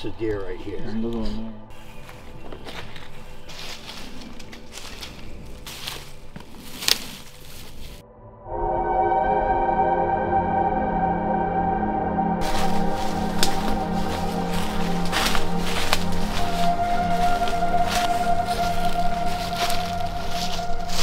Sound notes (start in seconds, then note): 9.0 suspenseful music; 13.8 footsteps